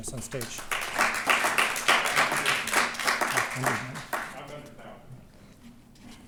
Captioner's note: applause